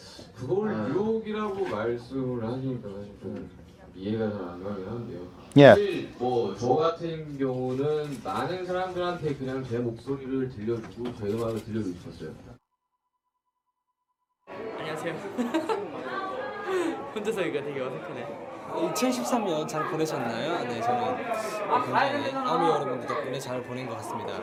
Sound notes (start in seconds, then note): 15.2 awkward laugh